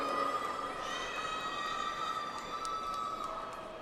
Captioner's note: audience applauds